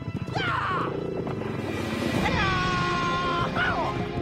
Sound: Frank yelling

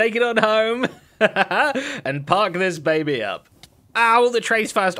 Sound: laughs

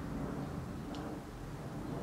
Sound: licking noise

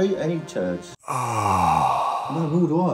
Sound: voiceover groaning

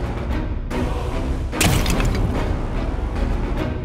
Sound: vase shattering

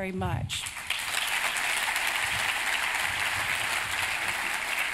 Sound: applause

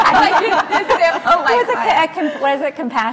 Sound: laugh; laughs

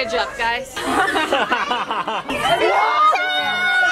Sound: laughing

